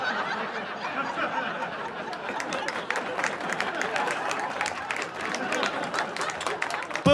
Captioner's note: insane laughter